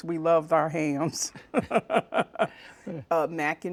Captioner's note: laughter